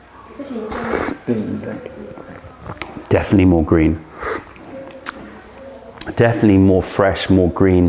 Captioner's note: sips tea